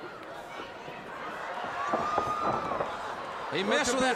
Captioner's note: crowd cheering